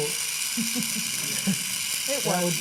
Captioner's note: laughter